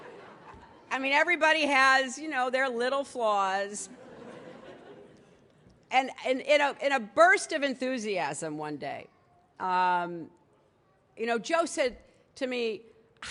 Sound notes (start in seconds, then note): 0.0 laughter; 3.8 laughter